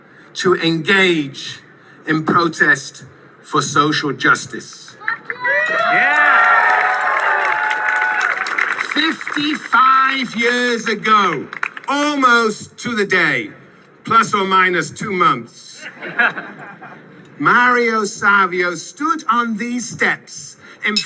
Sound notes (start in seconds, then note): 5.0 cheering